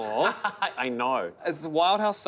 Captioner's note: laughing